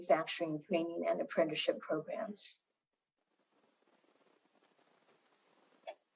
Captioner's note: silence